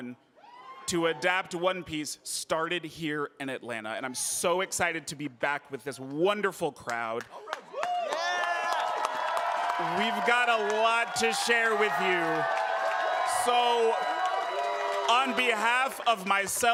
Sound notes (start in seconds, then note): 7.1 applause